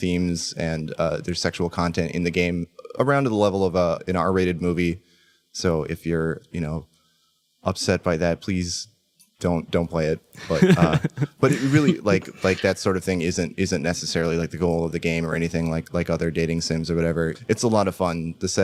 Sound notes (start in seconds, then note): 10.4 laugh